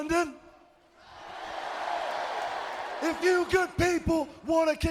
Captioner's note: crowd cheering